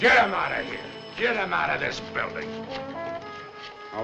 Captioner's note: phone ringing